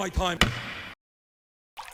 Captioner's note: gavel bang